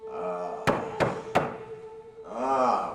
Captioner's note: knocks on door